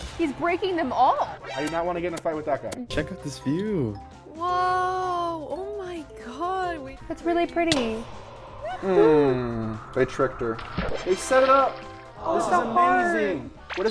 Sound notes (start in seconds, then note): 10.5 water splashing